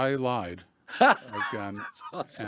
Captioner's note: laughs